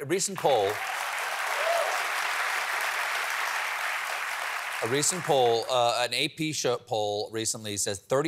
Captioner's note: applause